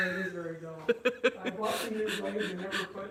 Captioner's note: laughter